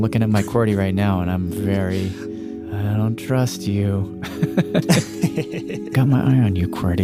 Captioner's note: laughs